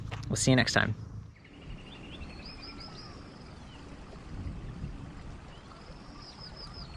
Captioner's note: birds chirping and outdoor sounds